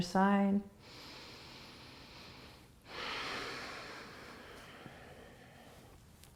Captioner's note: deep breathing